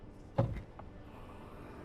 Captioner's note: sound of trunk popping open